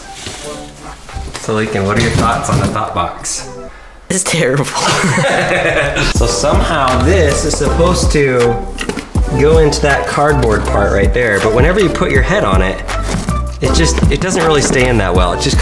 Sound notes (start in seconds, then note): 1.8 box clatters; 4.7 both laughing